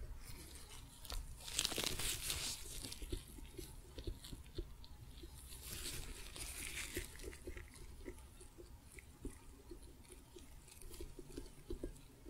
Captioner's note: louder glove sounds and tapping